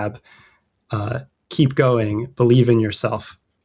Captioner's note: uh